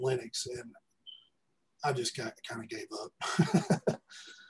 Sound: laughs

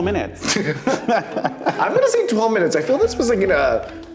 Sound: laughing

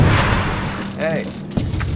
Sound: door creaks

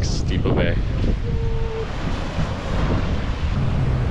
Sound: sirens wail

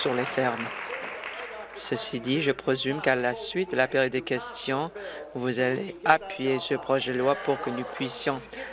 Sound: applause

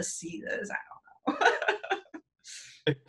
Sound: laughs

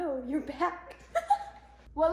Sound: laugh

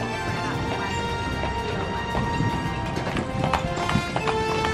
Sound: horses clip clopping

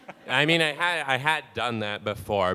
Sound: audience laughing

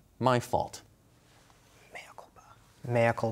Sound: whispering

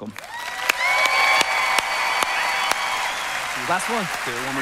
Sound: congregation applauding

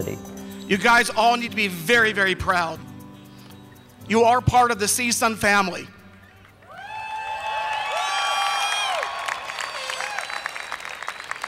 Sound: cheering

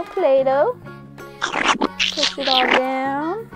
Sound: splat

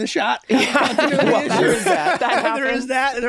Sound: all laughing

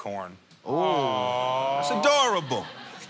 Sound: audience awws

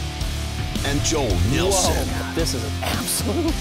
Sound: voiceover

